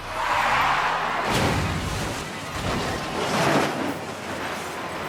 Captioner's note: vehicles crashing